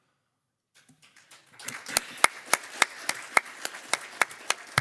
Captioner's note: crowd clapping